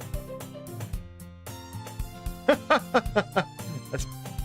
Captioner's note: laughs